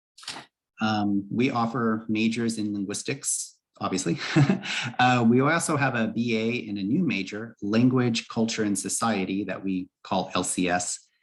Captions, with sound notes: We offer majors in Linguistics obviously, [brief laughter]. We also have a BA and a new major, Language, Culture, and Society that we call LCS.